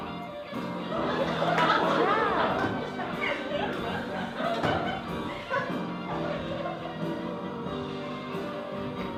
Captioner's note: laughter